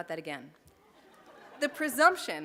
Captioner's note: laughter